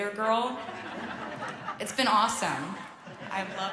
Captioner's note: laughter